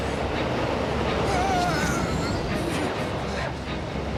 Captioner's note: screams